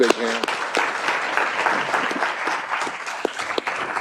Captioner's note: applause